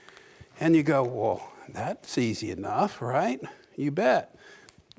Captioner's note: none